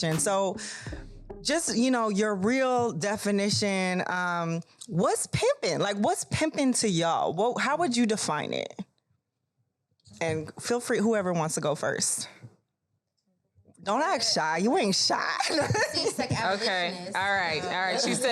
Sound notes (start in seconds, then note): 15.2 laughs